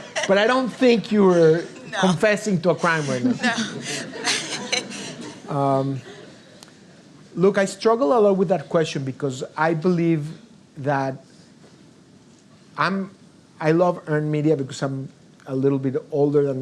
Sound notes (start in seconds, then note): 5.3 laughs